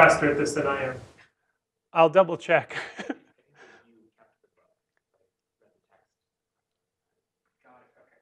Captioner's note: laughter